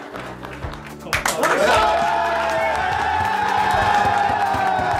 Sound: applause

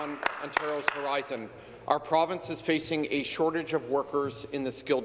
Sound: applause

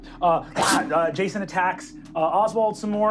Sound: slashing

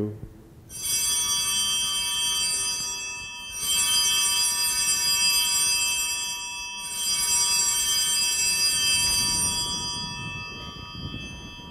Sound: bellringing

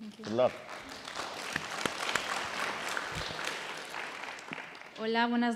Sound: audience applauding

